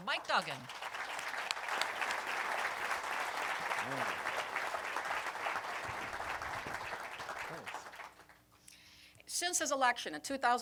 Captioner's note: applause